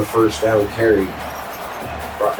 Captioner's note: crowd Noises